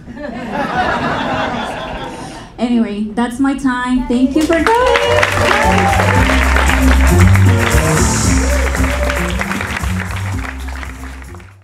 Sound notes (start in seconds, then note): 0.0 audience laughing; 6.0 audience applauding